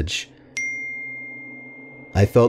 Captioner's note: ding